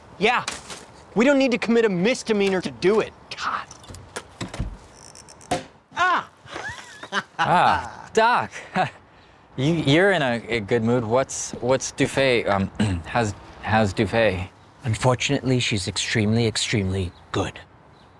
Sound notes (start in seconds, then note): 4.4 door close; 6.0 champagne pop; 6.4 Crayon laughing; 6.5 nervous chuckle; 12.8 clears throat